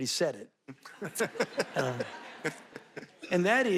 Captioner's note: audience laughing